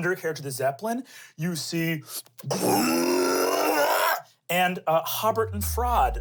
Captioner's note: growls